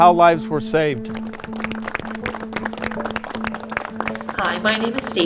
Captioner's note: clapping